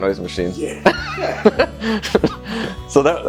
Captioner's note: laughing